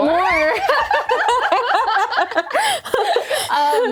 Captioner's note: laughing